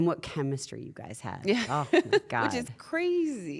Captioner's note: laugh